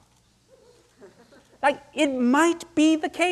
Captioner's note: audience laughing